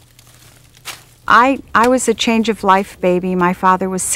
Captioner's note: voiceover